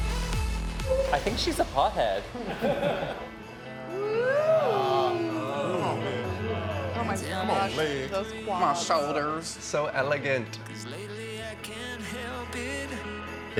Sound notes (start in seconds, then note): 2.1 group chuckling; 4.1 group cheering